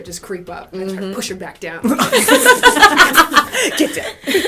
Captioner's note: laughter